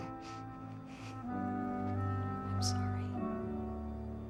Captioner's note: sniffles, stifles sob